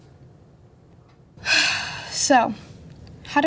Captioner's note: sigh